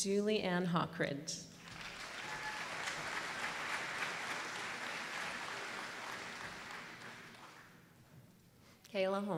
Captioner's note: applause